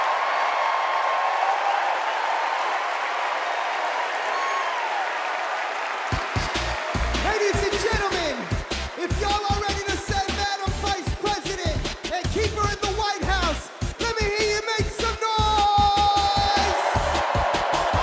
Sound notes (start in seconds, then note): 2.1 cheers and applause